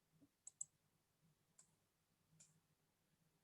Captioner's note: mouse clicks